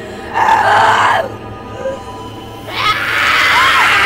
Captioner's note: screaming